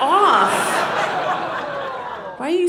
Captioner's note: audience laughing